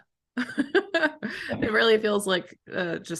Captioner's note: laughter